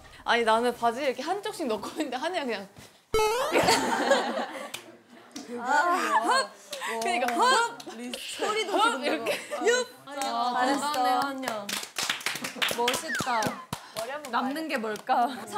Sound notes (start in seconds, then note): 3.2 boing